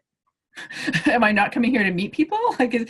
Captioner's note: host laughs